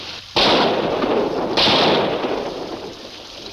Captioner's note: gun firing